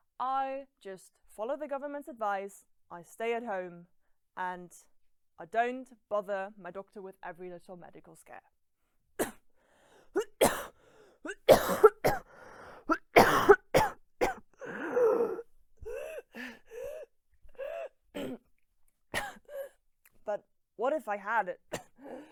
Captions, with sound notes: I just follow the government's advice, stay at home and,- I don't bother my doctor with every little medical scare. [coughing fit] [shallow raspy breaths] But what if I had it,